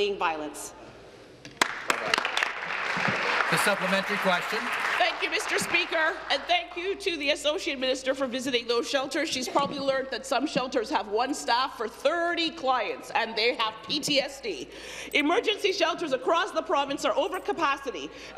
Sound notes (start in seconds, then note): 6.4 applause